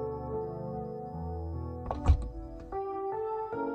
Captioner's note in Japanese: 扉の開閉音：ガタン